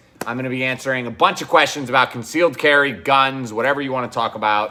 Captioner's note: none